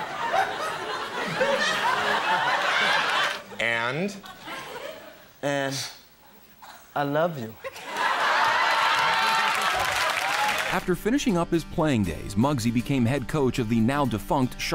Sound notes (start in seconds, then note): 0.0 audience laughing; 7.6 audience laughing and clapping